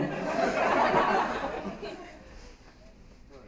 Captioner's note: laughter